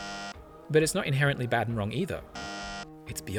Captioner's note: bzzzt; bzzzt